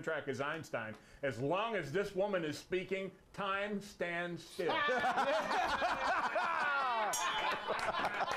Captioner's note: laughter; bell rings; laughter